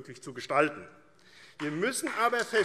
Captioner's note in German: Beifall AfD